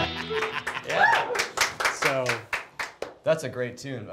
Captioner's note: audience clapping